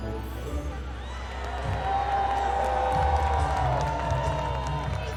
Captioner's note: crowd cheering